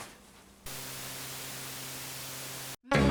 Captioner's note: TV static; jingle plays